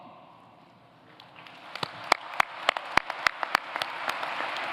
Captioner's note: applause